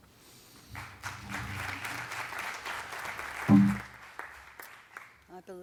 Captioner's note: audience clapping